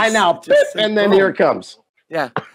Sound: mimics beep sound

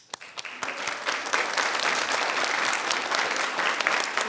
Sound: people clapping

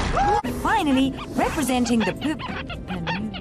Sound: ear squeaking

